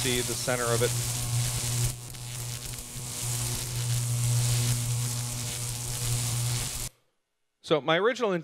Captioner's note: electricity Buzzing